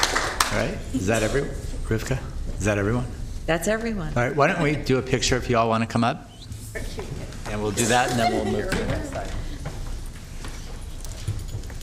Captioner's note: applause